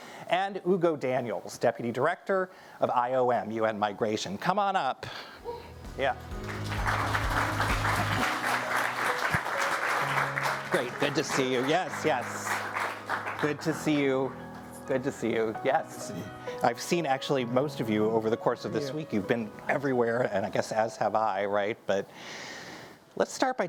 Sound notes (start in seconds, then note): 6.2 audience applauding